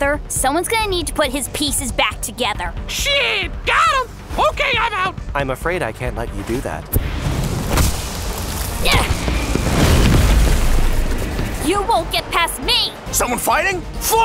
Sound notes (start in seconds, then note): 7.1 exciting music; 9.0 Diane groaning